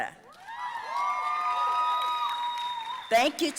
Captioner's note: audience cheering and applauding